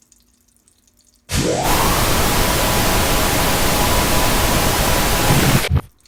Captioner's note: enormous, blaring sound